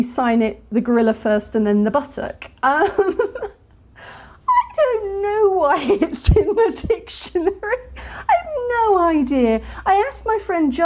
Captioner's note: laughing